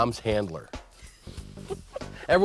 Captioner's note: laughing